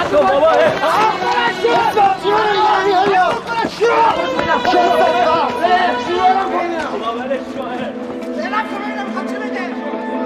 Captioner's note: shouting